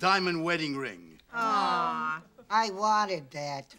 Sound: women groan

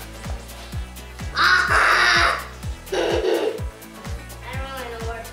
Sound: laughs

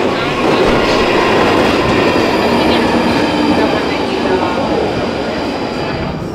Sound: sound of train arriving

